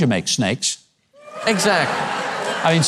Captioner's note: audience cheers